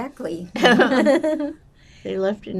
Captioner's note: laughing